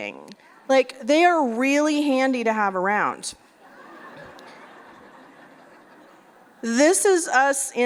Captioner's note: laughter